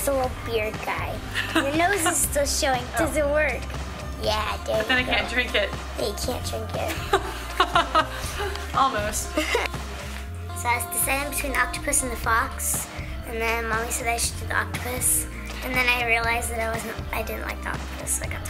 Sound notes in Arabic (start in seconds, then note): 1.3 يضحك; 7.2 يضحك